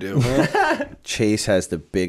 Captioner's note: chuckle